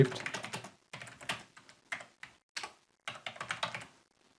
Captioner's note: keyboard clicking